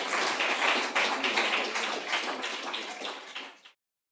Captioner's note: audience applause